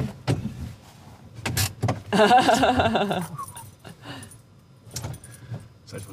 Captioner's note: laughing